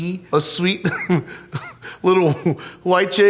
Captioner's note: laughs